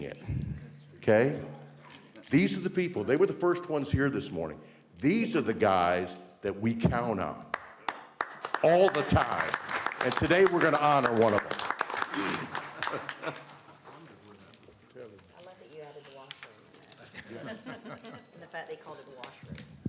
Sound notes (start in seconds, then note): 12.9 applause